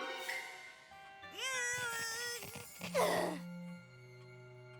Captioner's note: straining